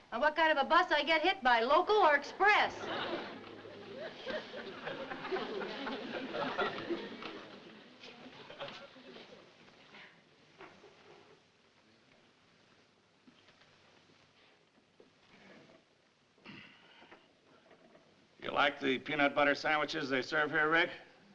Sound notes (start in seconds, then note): 2.4 audience laughing; 16.7 grunting